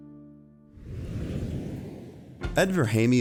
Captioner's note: whooshing